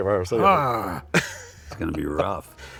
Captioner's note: George groans